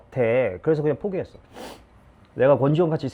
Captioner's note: sniff